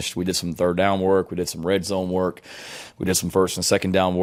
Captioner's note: breaths in heavily